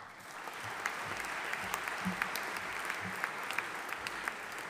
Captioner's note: audience applauding